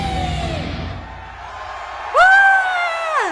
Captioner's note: audience cheering; yelling